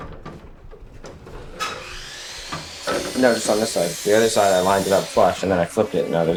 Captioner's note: table saw whirrs